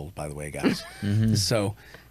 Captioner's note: chuckles